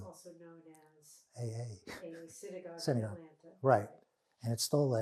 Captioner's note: laughing